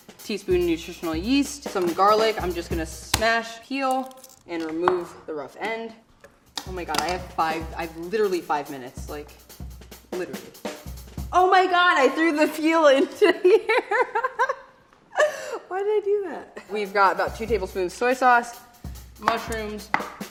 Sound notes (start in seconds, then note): 12.9 laughing